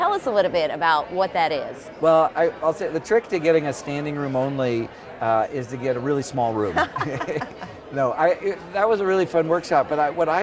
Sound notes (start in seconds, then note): 6.7 laughs